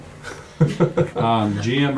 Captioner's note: laughing